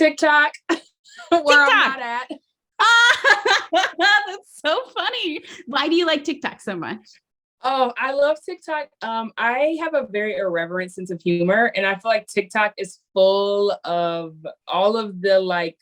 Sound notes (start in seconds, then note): 1.2 laughs; 2.8 laughing loudly